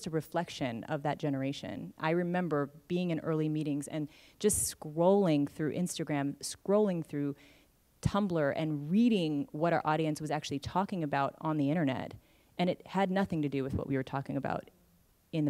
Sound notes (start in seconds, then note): none